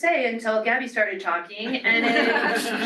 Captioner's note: laughter